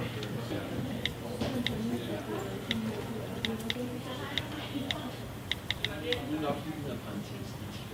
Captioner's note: clicking sound from the phone